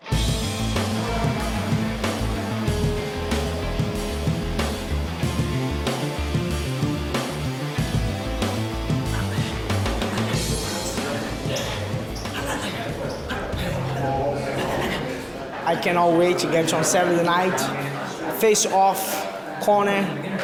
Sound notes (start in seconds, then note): 12.0 grunting